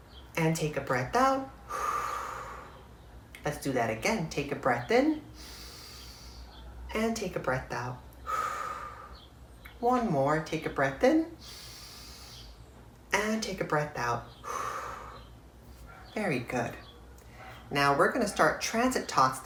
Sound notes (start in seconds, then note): 1.6 exhales; 8.2 inhales; 8.7 exhales; 14.3 inhales; 14.9 exhales